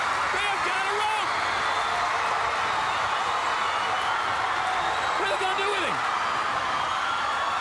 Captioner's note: crowd cheering